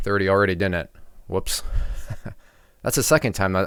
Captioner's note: laughs